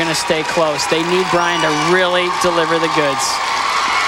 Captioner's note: crowd Cheering